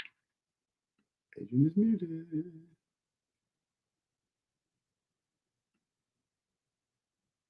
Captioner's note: speaker is muted